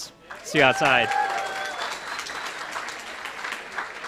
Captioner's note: applause